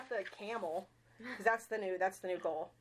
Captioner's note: chuckling